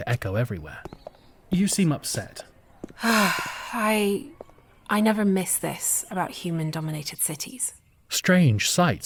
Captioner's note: sigh